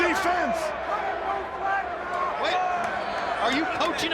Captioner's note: crowd chatter